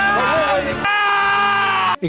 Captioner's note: yelling